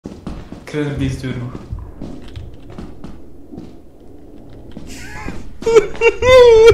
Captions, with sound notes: I remember this door... *Hearing footsteps..* *crying ensues*